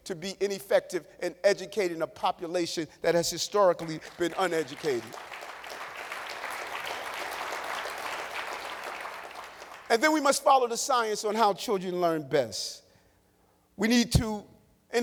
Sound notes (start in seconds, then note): 10.8 applause